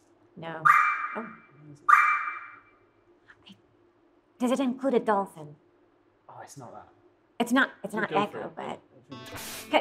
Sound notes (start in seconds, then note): 1.2 sharp electronic chimes